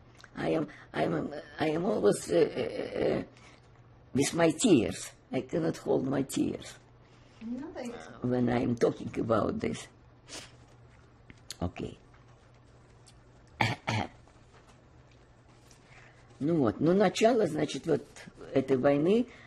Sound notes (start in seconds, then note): 10.2 sniffling; 13.5 coughing